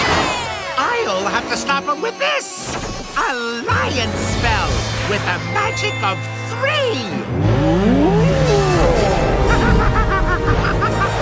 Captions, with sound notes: I'll have to stop him with this... a lion spell with the magic of three! [roaring]